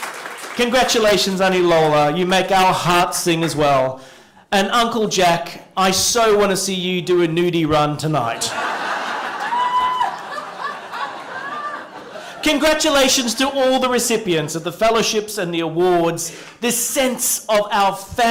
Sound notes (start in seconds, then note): 8.4 laughter